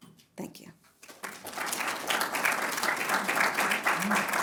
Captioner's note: applause